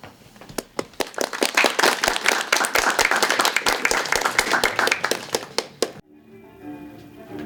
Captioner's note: applause